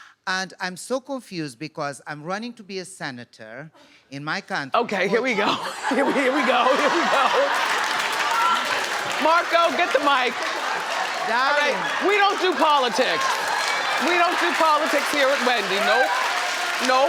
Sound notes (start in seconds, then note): 7.1 audience laughing